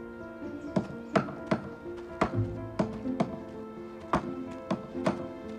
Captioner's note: banging continues